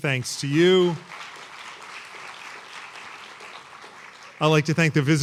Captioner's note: applause